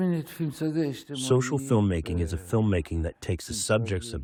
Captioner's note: through translator